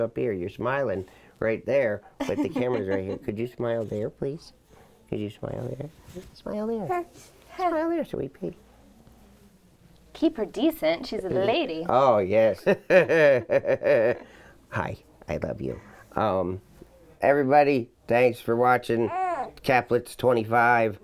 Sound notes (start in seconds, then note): 7.6 baby coos; 12.6 laughter